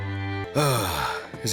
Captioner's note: groan